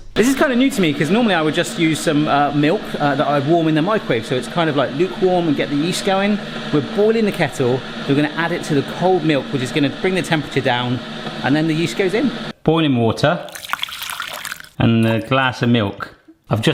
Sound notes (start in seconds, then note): 13.4 water splashing